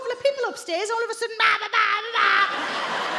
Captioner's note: shouts